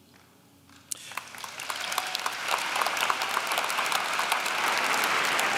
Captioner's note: audience clapping